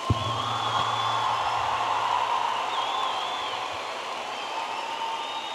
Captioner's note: audience applauding and cheering